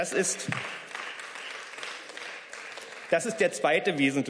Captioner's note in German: Beifall